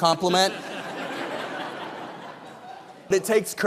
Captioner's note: audience laughing